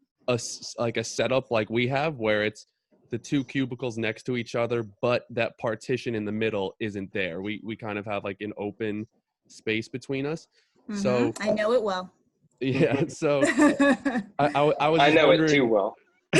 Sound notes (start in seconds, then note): 12.6 laugher